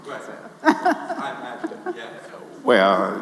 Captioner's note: laughing